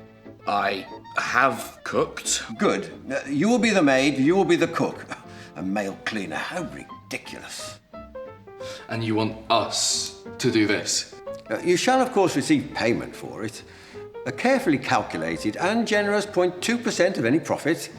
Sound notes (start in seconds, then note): 4.8 scoffs